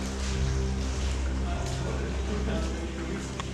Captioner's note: indistinct chatter